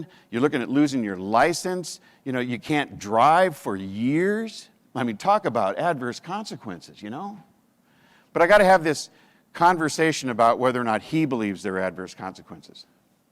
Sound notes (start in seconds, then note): none